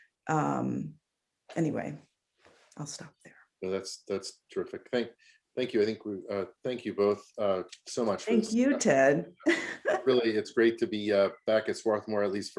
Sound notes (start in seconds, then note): 9.5 laughs